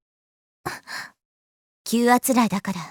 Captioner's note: silence